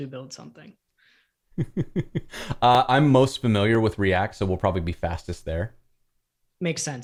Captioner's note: laughter